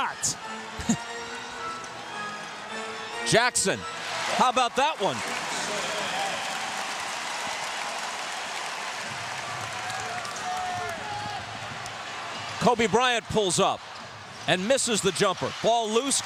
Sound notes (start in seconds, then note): 7.8 applause